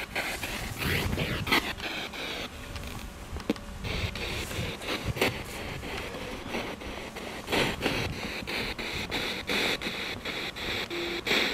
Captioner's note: radio noise from the spirit box